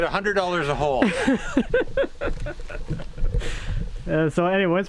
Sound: laughing

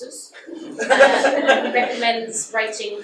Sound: audience laughs

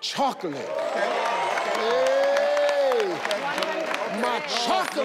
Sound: audience cheers

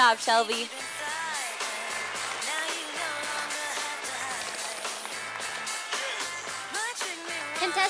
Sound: sound of applause from audience

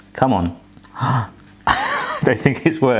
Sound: gasping; laughing

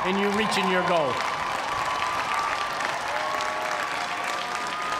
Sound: cheers and applause

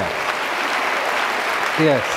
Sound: audience clapping

